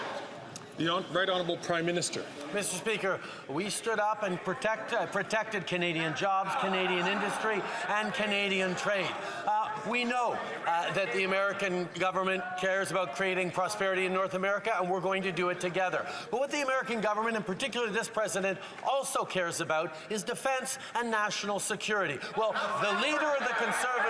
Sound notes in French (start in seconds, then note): 9.0 voix de l'interprète